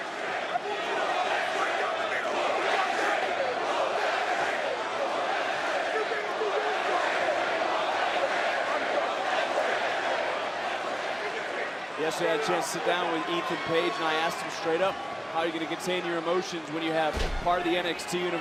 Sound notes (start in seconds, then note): 0.0 crowd chants; 3.1 yelling